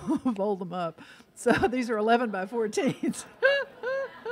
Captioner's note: laughs